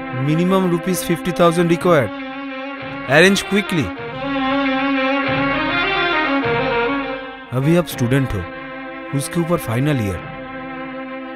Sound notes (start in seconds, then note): none